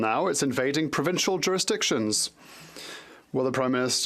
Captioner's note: speaking French